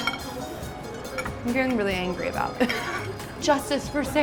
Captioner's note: laughs